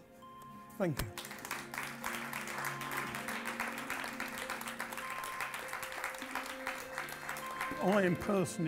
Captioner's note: applause